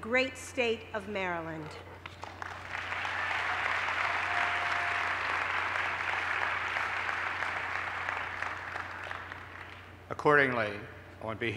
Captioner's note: applause